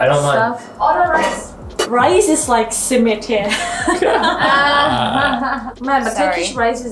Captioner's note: laughing